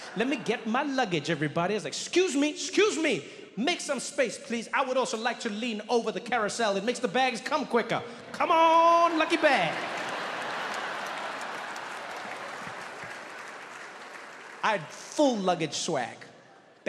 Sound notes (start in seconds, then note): 8.8 audience laughing